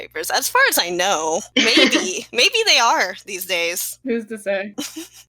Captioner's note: laugh; giggle